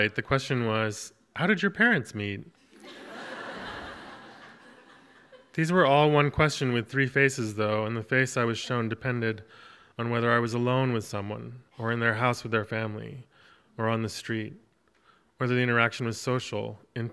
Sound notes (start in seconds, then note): 2.7 audience laughs